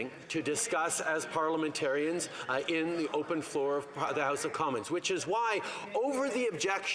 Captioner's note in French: voix de l'interprète